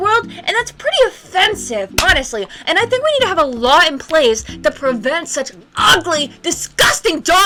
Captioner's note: clap